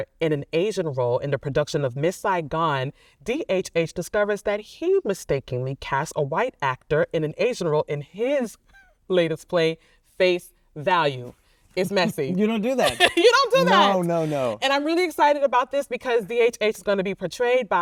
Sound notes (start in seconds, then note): 12.8 laughing